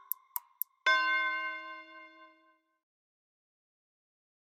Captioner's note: bell rings